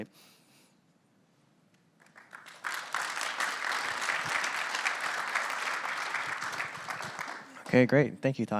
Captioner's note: applause